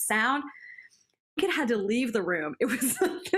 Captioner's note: laughter